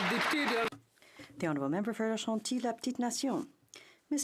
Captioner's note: some Applause